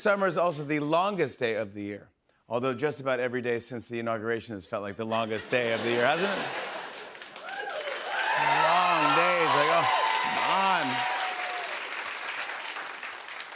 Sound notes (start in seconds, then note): 7.1 laughter, cheers, applause; 11.1 cheers and applause